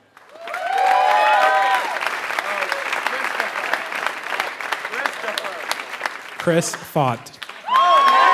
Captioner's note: applause